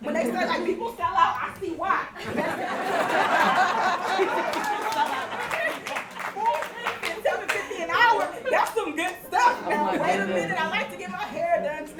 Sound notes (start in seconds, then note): 2.1 audience laughs and claps